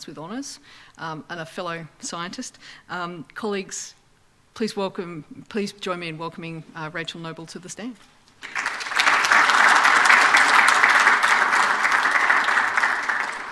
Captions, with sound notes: with honors, and a fellow scientist. Colleagues, please join me in welcoming Rachel Noble to the stand. [APPLAUSE]